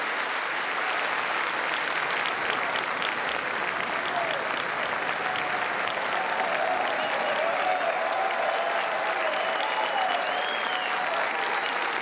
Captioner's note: applause